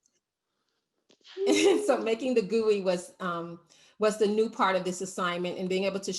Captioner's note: laughs